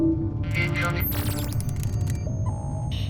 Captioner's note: static shifting as signal tunes